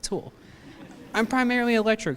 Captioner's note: laughter